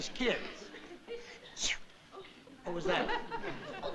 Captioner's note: sneezes